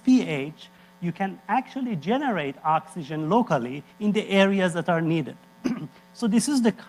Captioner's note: cough